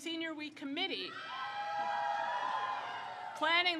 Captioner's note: crowd cheers